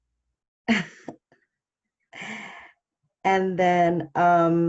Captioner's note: laughs